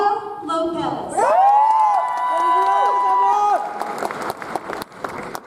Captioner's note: audience applauds